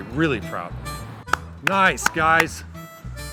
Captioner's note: clapping